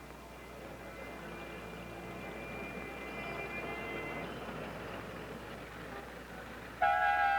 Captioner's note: busy street sounds; horn blaring